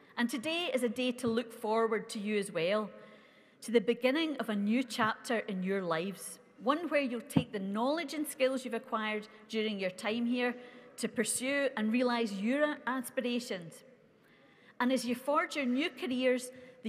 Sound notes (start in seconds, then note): none